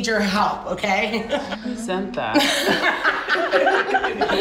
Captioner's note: laughter